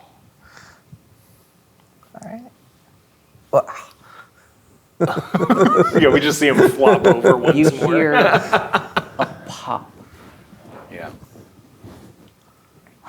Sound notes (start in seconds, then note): 5.0 players laughing